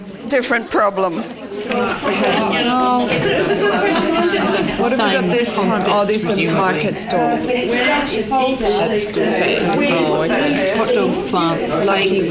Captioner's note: audience chatter